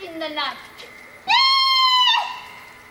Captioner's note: Verges screams